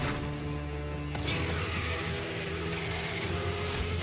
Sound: roar!

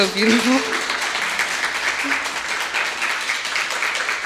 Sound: audience applauding

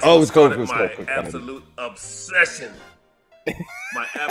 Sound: laugh

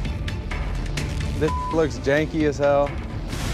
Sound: beep

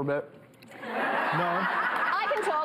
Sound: audience laughter

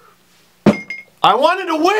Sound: hits desk

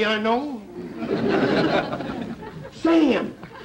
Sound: audience laughter

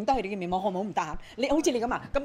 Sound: in Cantonese

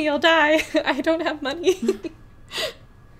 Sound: laughs

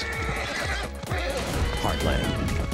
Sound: neigh

